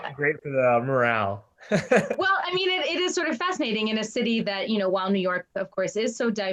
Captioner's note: laughs